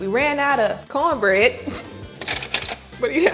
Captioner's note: laughing